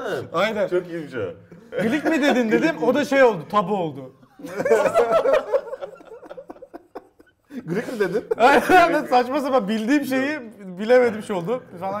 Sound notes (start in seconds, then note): 4.4 laugh